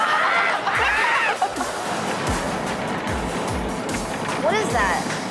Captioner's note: audience laughs; car driving on dirt road